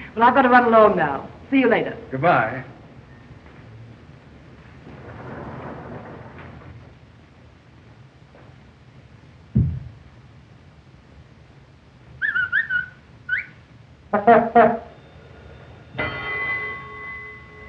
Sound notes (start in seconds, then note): 13.2 whistling; 14.0 horn tooting; 15.0 bell dinging